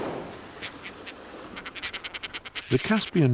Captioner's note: birds nattering